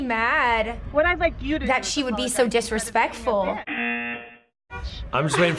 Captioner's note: buzzer